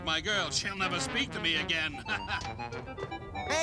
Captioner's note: laughs